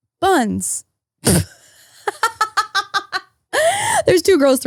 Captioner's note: laughing